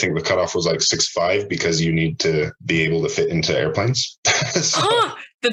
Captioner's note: laughs